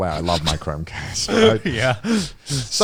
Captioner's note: laughs